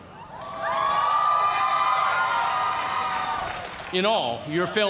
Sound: cheers and applause

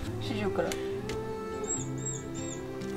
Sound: chirping

